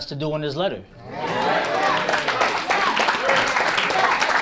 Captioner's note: audience applauds